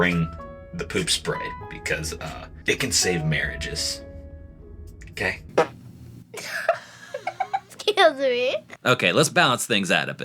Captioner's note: laughing